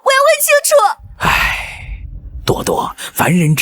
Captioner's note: sigh